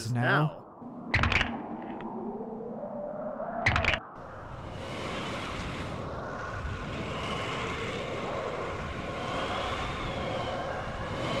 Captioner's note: knuckles crack and twister briefly sound off